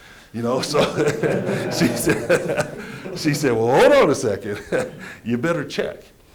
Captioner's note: laughter